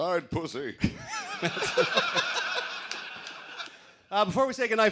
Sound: laughter

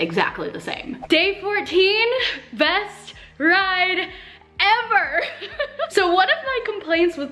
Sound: giggles

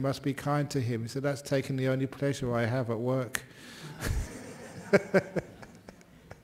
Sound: laughter

